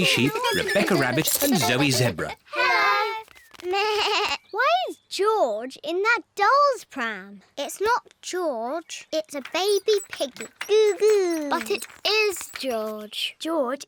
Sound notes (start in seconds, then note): 4.3 bleats